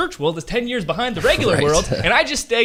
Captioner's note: laughs